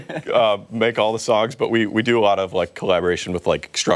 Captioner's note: laughter